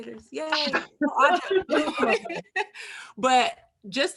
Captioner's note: laughs happily